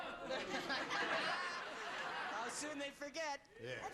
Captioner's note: laughter